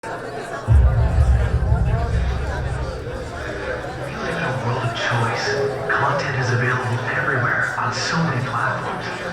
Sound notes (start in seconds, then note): 0.7 audience chattering; 4.8 voiceover